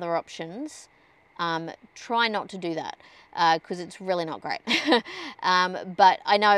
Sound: scoffs uncomfortably

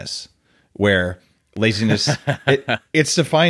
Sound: Adam laughing

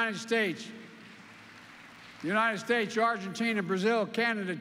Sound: applause

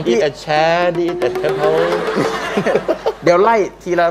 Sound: laughter

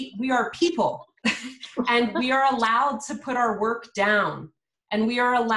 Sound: laughs

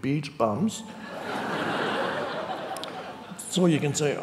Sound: audience laughing

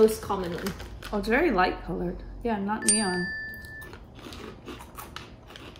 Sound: bell chimes

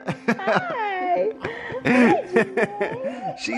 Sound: laughing

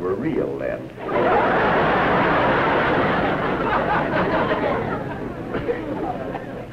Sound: laughter

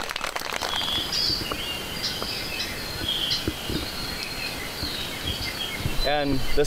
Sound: applauding; chirping

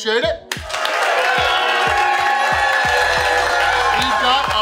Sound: audience cheering

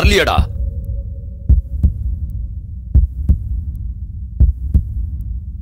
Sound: heart pounding

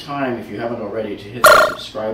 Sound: computer beeps

